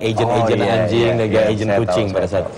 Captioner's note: non-english speech